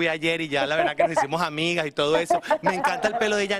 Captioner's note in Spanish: risas